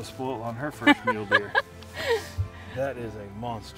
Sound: laughing

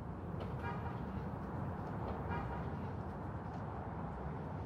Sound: horn honks

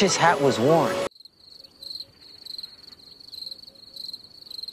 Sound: crickets chirping; they continue to chirp

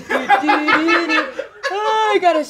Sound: someone laughs from offscreen

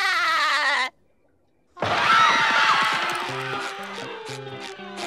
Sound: laughing; screaming

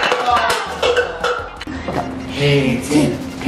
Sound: all groan

